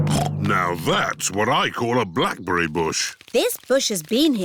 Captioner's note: snorts